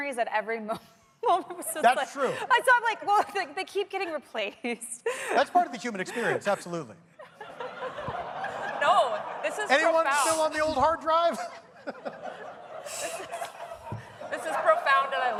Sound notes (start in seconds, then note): 1.8 laughter; 14.6 laughter